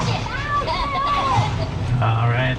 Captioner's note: Minions chattering